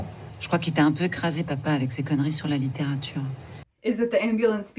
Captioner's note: Agathe's sister over the phone